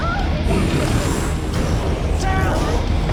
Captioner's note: growling